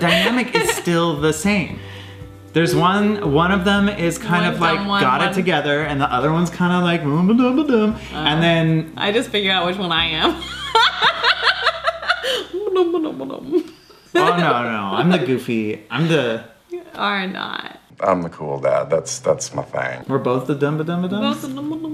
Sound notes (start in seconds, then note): 7.7 silly voice; 10.7 laughing; 12.4 mumbles playfully; 21.7 mumbles playfully